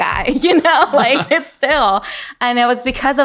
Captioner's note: laughing